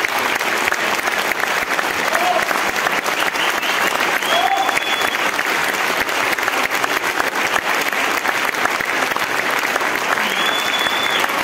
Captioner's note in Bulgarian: аплодисменти